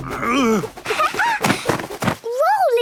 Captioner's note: laughing